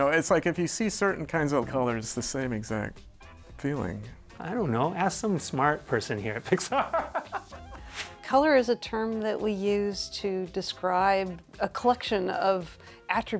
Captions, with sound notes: You know, it's like if you see certain kinds of colors, the same exact feeling. - I don't know. Ask some smart person here. Pick-- (laughing) - Color is a term that we use to describe a collection of attributes,